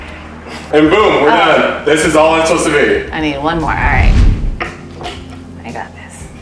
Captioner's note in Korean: 붐!